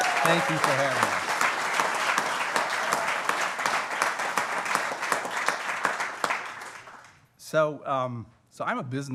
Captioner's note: applause